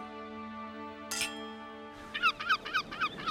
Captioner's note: clinking; seagulls calling; wind blowing